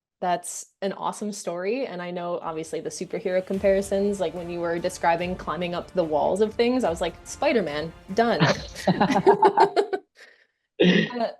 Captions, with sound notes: That's an awesome story. And I know obviously the superhero comparisons, like when you were describing climbing up the walls of things, I was like Spiderman done (Laughing)